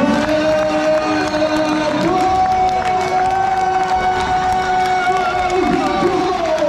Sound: stadium announcer celebrates goal

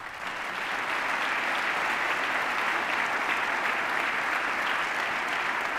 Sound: applause

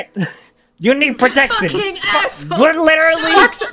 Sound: Sparx voice; Cynder voice; Sparx voice

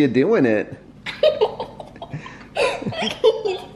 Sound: laughing

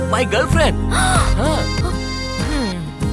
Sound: gasps

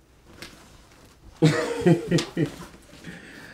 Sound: Nosa Laughs

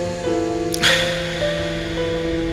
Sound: another lip smack; uncomfortably whispering into mic

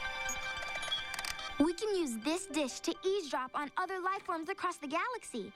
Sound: beeping

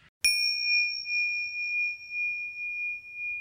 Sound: bell dings

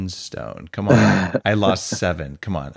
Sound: laughing

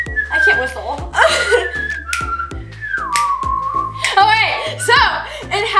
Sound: continues whistling

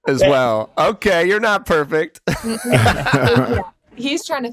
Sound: laughs

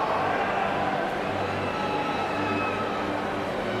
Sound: cheering

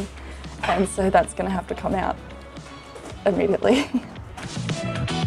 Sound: chuckles; pop electronic music

